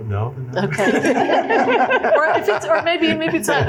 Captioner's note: laughter